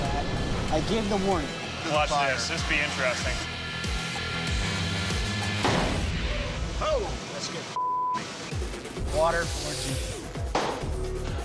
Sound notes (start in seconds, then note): 5.6 explosion; 9.9 pounding